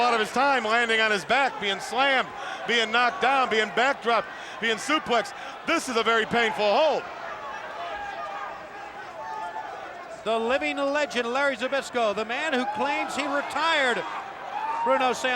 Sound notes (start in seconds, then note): 7.3 applause